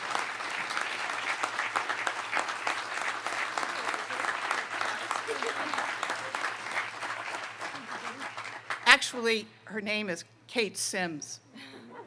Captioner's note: applause